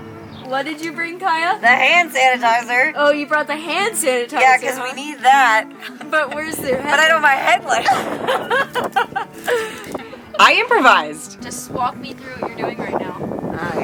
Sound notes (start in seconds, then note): 8.4 both laugh